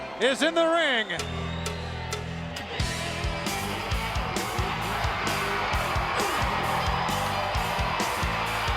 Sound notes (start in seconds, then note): 0.0 crowd cheering; 2.5 upbeat rock music